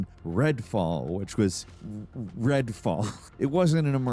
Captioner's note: chuckles